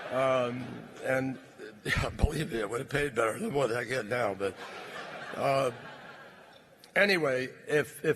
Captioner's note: laughter; laughter